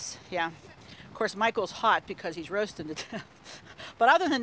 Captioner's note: chuckles